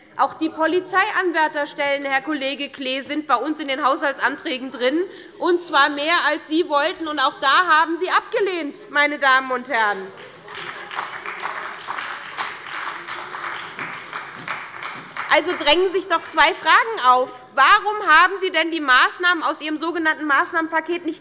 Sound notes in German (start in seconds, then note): 10.1 Beifall bei der SPD – Zurufe von der CDU